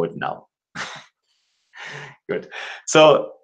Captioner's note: chuckles